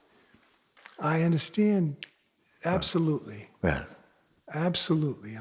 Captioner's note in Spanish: chasquido de dedos